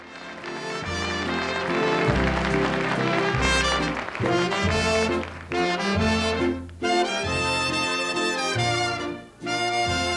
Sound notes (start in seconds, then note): 0.0 audience applauding; 0.5 wistful music